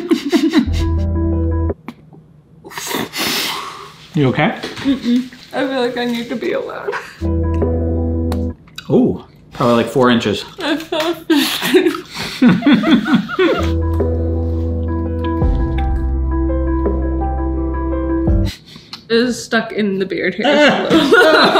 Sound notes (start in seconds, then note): 0.0 laughing; 0.5 light music continues; 2.8 laughing; 7.2 light music continues; 8.6 bubble pops; 12.6 laughing; 13.3 light music continues; 20.5 laughing